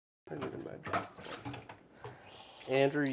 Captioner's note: water splashes